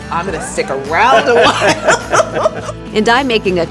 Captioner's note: laughing